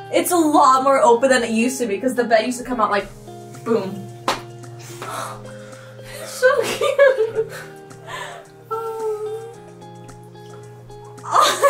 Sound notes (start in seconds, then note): 4.2 claps